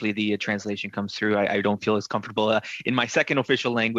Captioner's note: speaking French